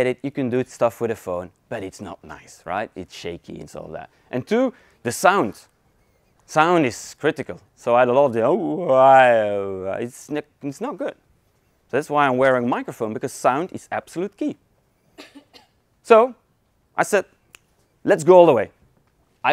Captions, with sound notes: you can do stuff with a phone, but it's not nice, right. It's shaky, it's all that. And two, the sound. Sound is critical so (mouth whining) it's not good, that's why I'm wearing microphone because sound is absolute key. So, I said let's go all the way.